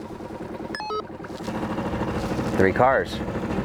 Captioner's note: walkie talkie beeping